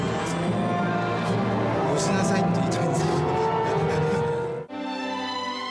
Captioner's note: chuckles